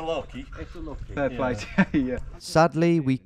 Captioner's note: laughs